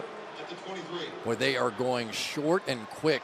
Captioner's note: pa announcement